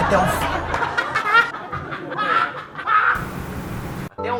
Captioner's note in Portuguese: risada forçada